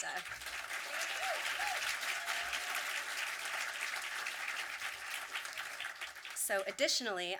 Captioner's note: audience applause